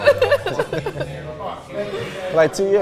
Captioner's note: laughs